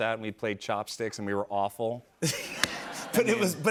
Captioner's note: laughter